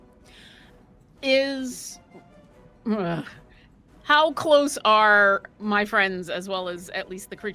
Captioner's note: grunts